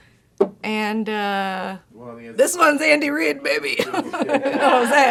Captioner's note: laughs